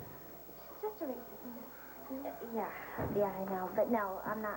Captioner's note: regular voice